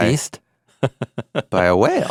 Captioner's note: chuckling